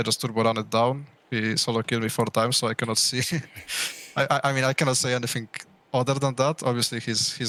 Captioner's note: laughs